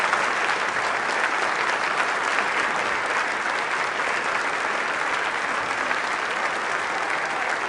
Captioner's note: applause